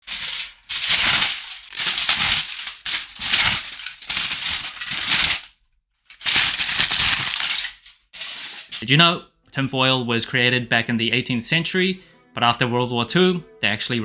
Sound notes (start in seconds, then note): 0.0 aluminum foil ripping